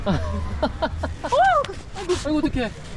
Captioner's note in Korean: 놀람